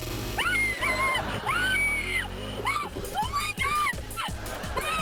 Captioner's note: suspenseful music; screaming; audience laughing